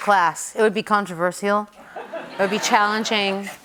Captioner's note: laughter